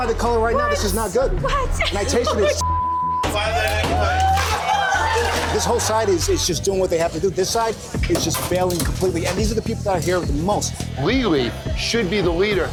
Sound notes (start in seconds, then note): 1.9 laughs; 4.1 chatter